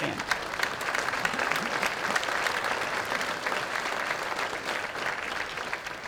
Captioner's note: applause